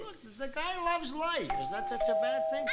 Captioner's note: doorbell rings